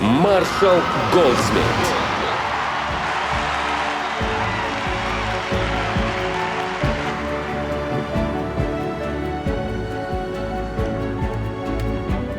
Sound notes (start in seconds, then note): 3.0 audience cheering and applauding; 7.6 inspiring music